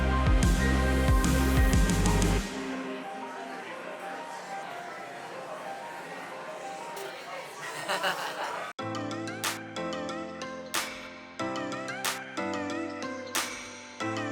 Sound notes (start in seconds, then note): 2.9 crowd chatting; 7.5 laughter; 8.8 bright pop music